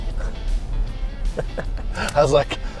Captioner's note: laugh